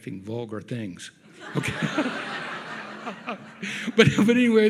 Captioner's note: audience laughs